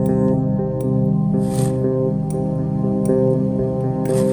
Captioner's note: shovel scraping; suspenseful music